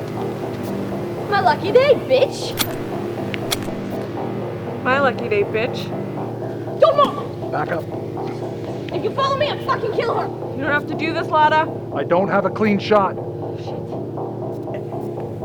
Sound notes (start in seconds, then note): 2.3 gun clicks